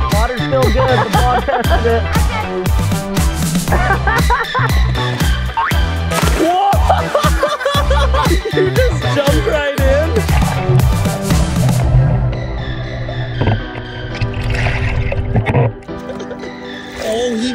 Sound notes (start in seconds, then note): 3.6 laughs; 5.5 jump boings; 8.0 laughs